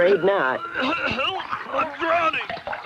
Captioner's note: sputtering and coughing